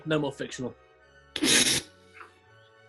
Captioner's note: splutters